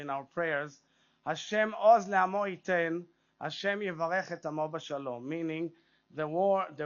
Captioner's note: speaks Hebrew